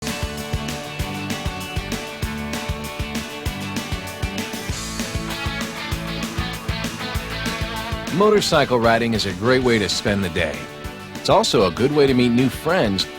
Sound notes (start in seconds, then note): 0.0 upbeat rock music; 8.5 voiceover